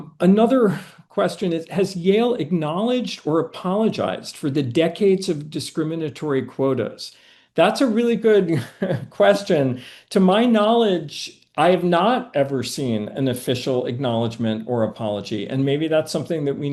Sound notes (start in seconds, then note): 8.5 chuckling